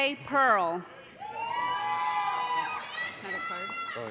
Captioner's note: loud cheers